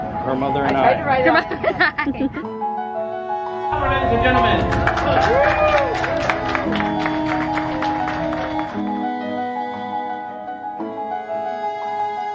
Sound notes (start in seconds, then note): 1.3 laughs; 2.5 gentle piano music; 3.7 crowd clapping and cheering; 6.3 gentle instrument music